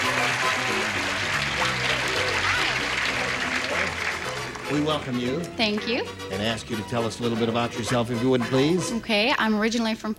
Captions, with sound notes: [APPLAUSE] HI. HELLO. WE WELCOME YOU. THANK YOU. AND ASK YOU TO TELL US A LITTLE BIT ABOUT YOURSELF IF YOU WOULD, PLEASE.